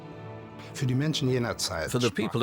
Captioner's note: speaking German